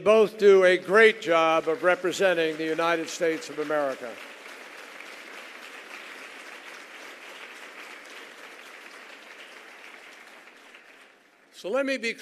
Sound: applause

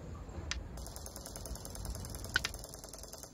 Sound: rattling

